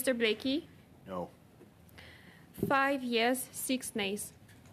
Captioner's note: speaking French